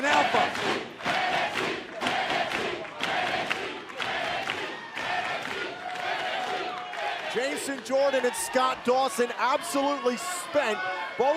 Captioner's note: fans chanting